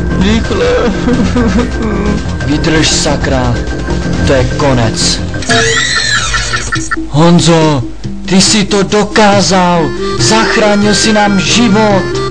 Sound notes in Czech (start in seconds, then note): 1.1 Brečí; 5.2 Zvuk deaktivování bomby